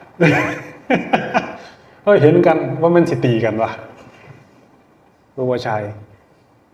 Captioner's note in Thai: เสียงหัวเราะ